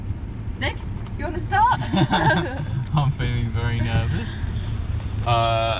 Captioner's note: laughs awkwardly!!